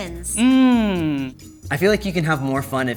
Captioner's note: humming